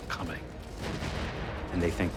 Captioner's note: explosions booming